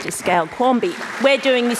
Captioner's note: applause